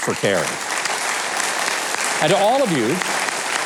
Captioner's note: audience clapping